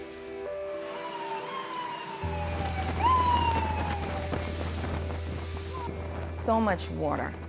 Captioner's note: sirens sound